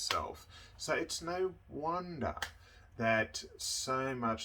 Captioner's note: hands clasping